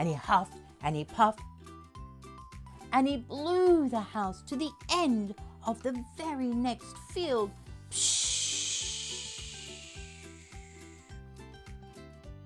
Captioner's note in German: swshhh!